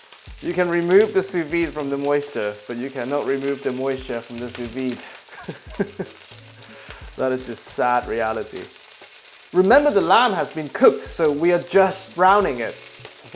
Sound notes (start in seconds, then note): 5.2 laughs